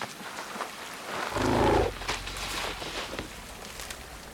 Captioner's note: chuffs